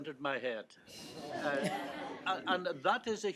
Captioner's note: audience laughs